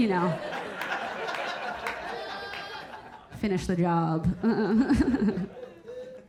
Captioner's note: audience laughing